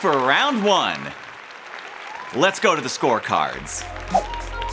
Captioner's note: applauding continues; crowd applauding